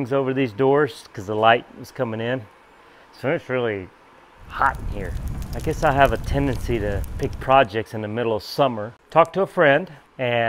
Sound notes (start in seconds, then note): 4.3 flames crackling